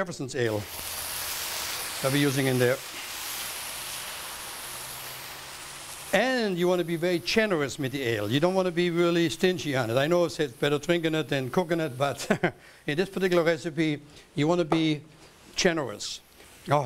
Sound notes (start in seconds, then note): 1.2 sizzling; 12.1 chuckles